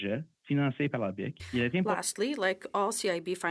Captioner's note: speaking in French